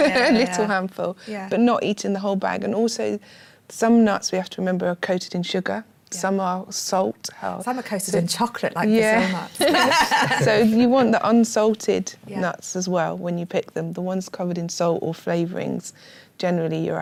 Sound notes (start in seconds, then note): 9.5 laughter